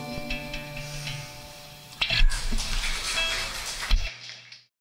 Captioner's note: applause